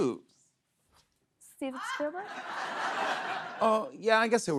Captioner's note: laughter